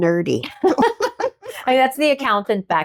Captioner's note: laughing